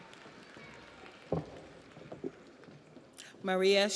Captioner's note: audience applauds